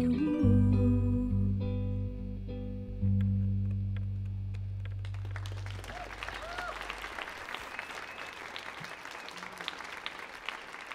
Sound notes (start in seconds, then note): 4.5 audience applauds